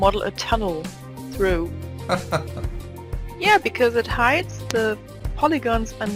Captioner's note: laugh